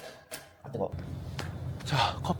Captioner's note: clap